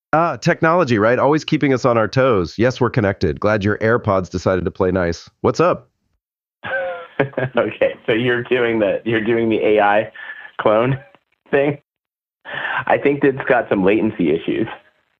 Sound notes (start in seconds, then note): 6.6 laughs